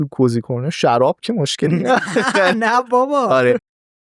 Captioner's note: laughs